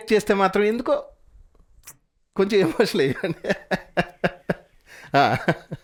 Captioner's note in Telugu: నవ్వు